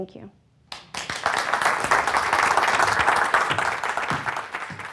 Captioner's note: audience applauding